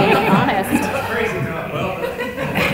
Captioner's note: laughter